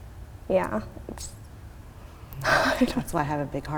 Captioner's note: laughing